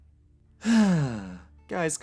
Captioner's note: sigh